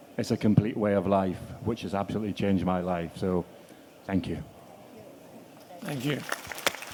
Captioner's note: applause